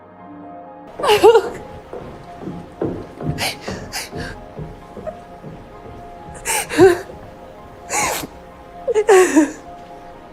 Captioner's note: Serena cries